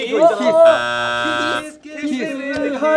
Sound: buzzer sounds

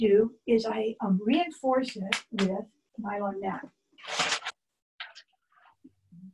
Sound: claps hands

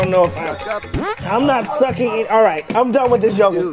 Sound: farts

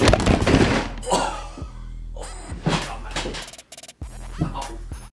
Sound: groans in pain

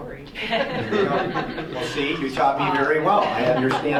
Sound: audience laughing

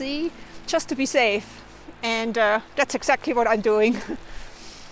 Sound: laughs

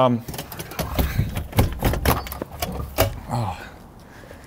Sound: door opening

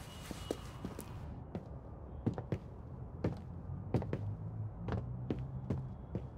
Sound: footsteps thudding softly

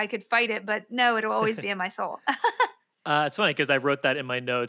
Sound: Felicia laughs

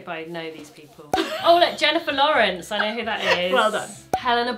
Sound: cork popping

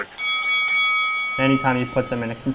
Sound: boxing ring bell sounds

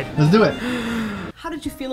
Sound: gasp

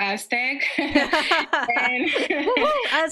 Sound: laughs

